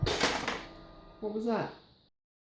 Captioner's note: clunk